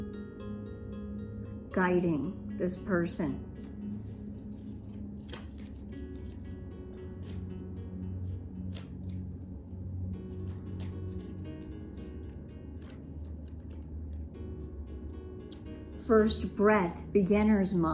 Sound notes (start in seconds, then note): 8.1 cards shuffling